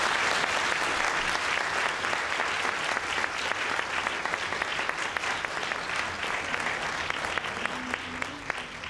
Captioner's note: applause